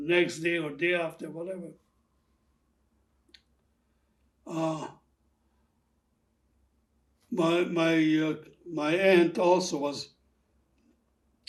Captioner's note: pauses 6 seconds